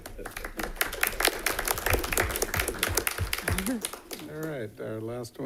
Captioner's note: all applauding